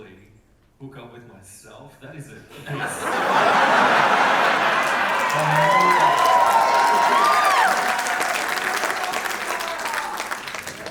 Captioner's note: audience laugh, applause and cheer